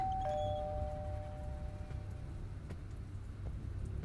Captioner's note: doorbell ringing